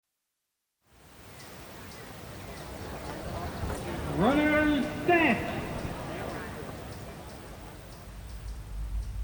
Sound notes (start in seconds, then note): 1.7 crowd chattering